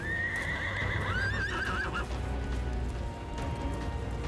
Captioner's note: horses neigh